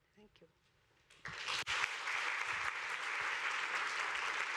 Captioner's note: applause